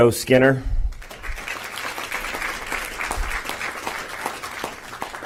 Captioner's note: applause